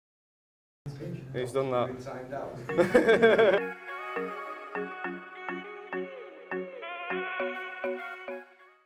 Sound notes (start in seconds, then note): 6.0 laughing